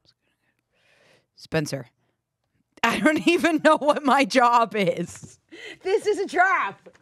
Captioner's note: laughs